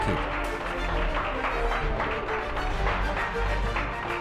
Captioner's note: audience claps